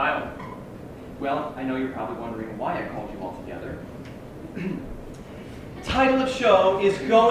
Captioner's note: ahem